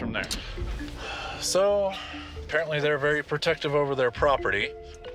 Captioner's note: sighs